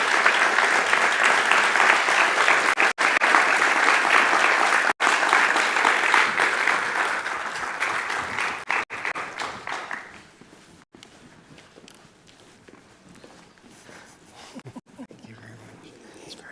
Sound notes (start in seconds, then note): 0.3 audience applauding continues; 6.8 footsteps plodding